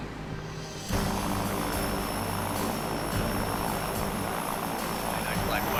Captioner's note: plane propellers whirring; slow dramatic music